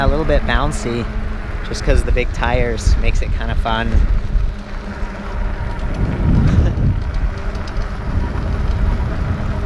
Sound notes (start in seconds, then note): 5.2 motor whirring